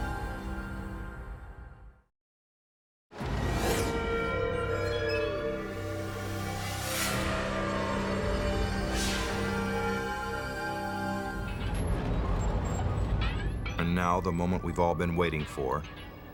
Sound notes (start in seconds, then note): 2.8 eerie music; 11.3 tank rumbling